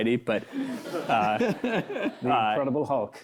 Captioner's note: laughter